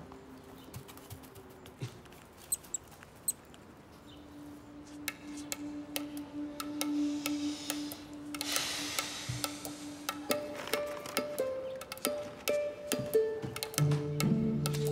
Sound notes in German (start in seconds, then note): 2.5 Fiepen; 4.6 langsame Musik; 10.4 fröhliche Musik